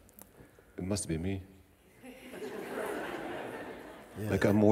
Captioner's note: laughter